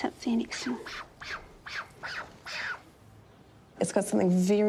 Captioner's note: kiwi squawks